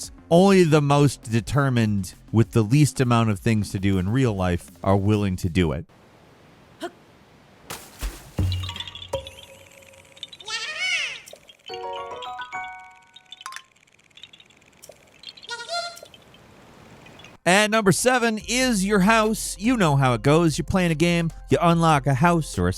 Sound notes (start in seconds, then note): 6.9 Link grunts; 7.6 water splashing; 8.1 rattling and popping sound effect; 11.4 chiming sound effect; 12.6 rattling sound effect; 15.5 Korok speaks in foreign language